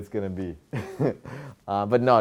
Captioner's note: laughs